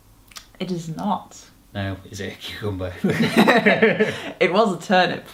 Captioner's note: laugh